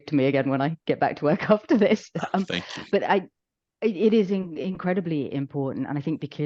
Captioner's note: laughs